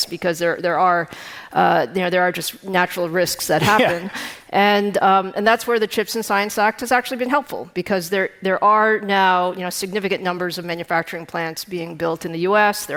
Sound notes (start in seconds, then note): 3.6 chuckling